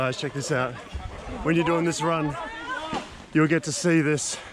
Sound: yelling in foreign language

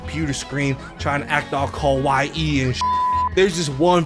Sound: beep

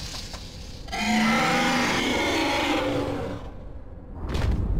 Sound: roar

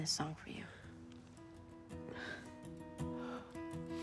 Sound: Emily sniffles

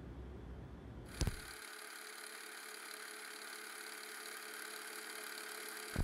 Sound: film reel clicking softly

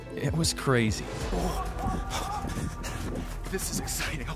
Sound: panting heavily

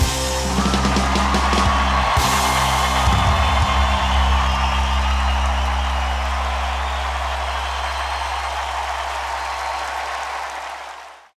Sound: audience cheering

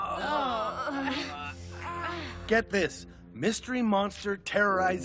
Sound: groaning

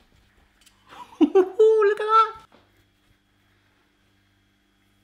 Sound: laughing

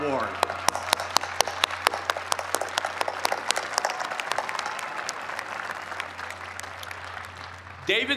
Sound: cheers and applause

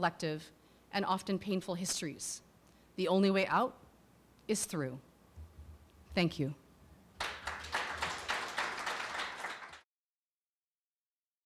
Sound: applause

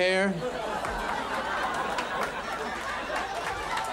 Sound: audience laughs

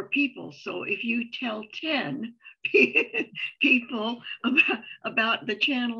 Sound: chuckles

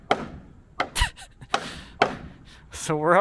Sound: hammer banging; laughing

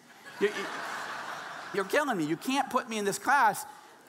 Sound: audience laughing

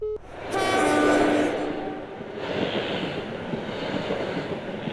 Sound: train sounds its horn

